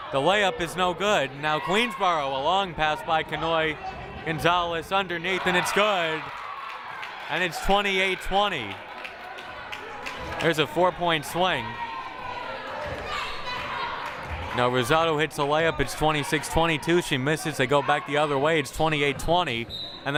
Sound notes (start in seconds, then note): 8.7 crowd applauding